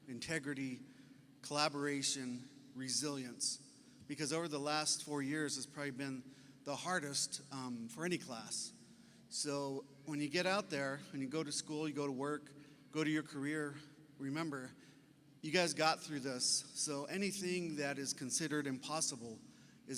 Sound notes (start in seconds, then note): none